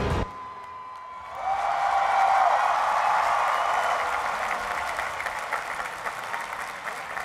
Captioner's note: cheering and applause